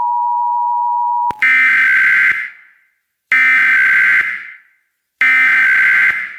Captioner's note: alarm beeping